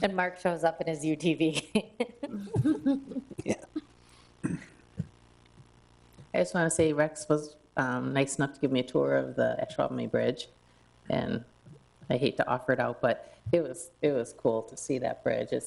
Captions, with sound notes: And Mark shows up in his UTV. (people chuckle) Yeah. I just wanna say Rex was nice enough to give me a tour of the Ashwaubomay Bridge, and I hate to offer it out, but it was cool to see that bridge.